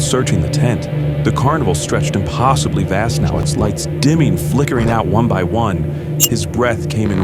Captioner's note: glitch